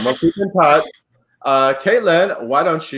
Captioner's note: laughs